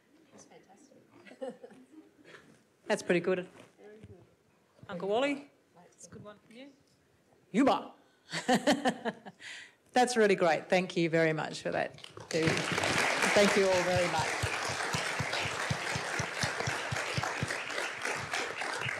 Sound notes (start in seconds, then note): 2.3 laughs; 8.7 laughs; 12.0 audience applauds